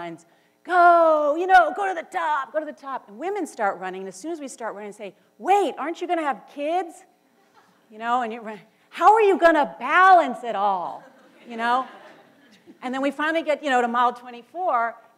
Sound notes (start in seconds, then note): 11.0 laughter